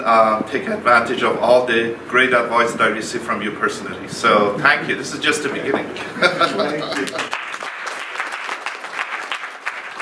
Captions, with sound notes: advantage of all the great advice that I receive from you personally so thank you, this is just the beginning (laughs) (clapping)